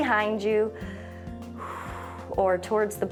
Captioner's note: exhales